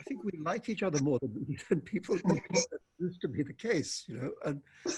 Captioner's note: murmurs